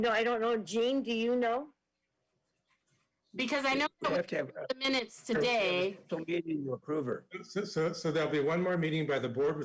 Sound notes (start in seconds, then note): 6.1 speaks faintly